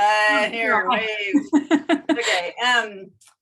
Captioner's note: chuckles